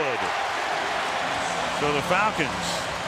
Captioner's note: cheering